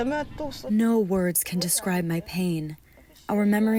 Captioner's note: through translator